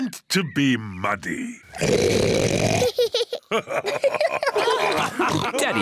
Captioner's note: oinks loudly; both laugh